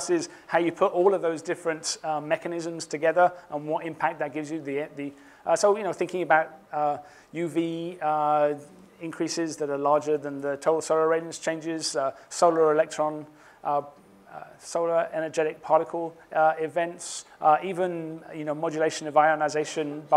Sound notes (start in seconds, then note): none